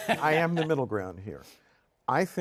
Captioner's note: laughter